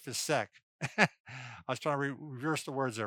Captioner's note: laughs